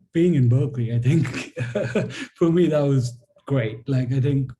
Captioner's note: laughs